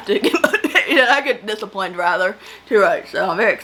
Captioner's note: laughs